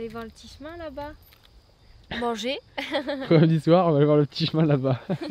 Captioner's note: laughs